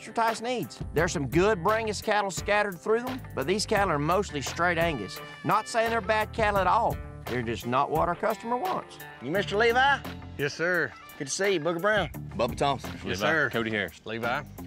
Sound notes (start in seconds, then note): none